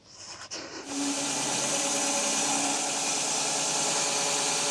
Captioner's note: saw whirring